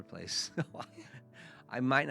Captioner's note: laughs